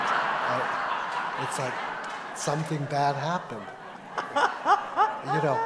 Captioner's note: laughter